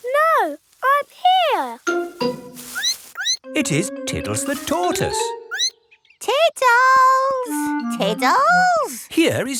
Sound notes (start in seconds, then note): 3.1 squeaks; 5.5 squeaks